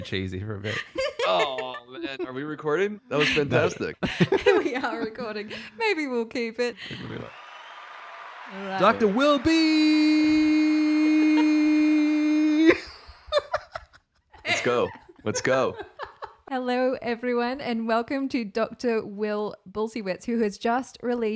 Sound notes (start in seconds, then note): 7.0 audience cheering; 12.2 laughing